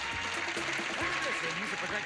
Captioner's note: audience applauding